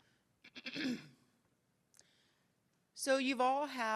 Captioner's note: interpreter clears throat